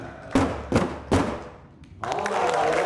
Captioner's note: stomping; audience applause